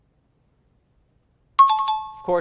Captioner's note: chiming